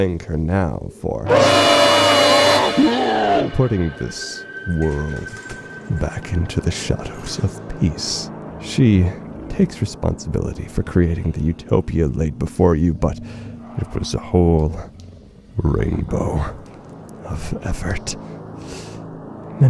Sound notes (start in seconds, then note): 1.2 blaring screech